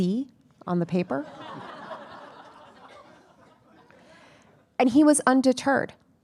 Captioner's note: attendees laughing